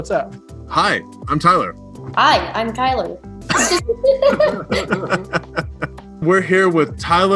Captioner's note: laughs